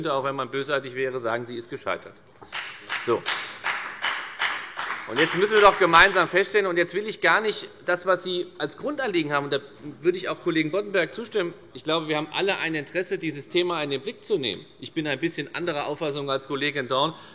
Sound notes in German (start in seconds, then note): 2.4 Beifall bei der FDP